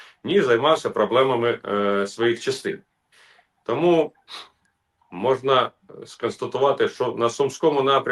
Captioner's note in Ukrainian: сопіння